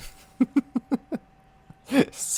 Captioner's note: laughs